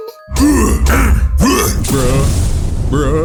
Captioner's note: o'chunks grunting; bowser retches